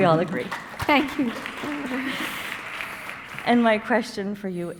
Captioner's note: audience applauding